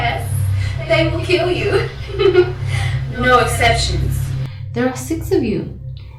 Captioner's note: laughs